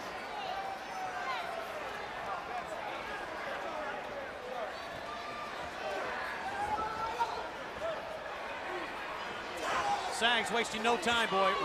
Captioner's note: crowd chatter